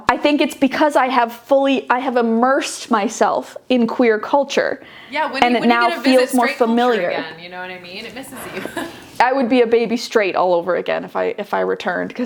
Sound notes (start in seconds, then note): 8.5 chuckle